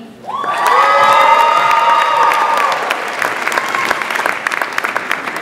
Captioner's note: audience applauds and cheers